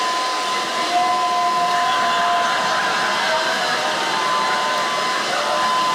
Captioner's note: yelling gibberish